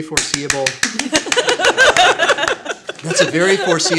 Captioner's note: clapping and laughing